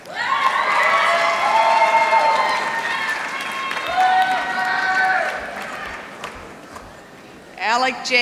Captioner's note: applause